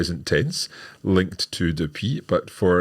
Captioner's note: speaks in foreign language